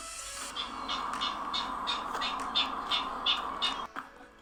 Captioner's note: california Ridgway's Rail call